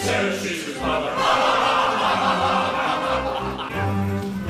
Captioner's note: peers laugh